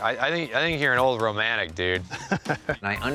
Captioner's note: laughs